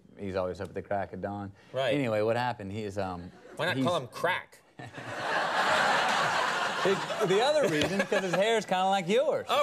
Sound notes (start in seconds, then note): 4.8 studio audience laughs